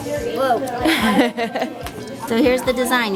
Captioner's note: laughs